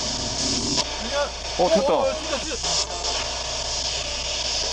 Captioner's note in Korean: 튀는 전자기장